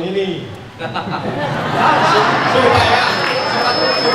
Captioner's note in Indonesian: tertawa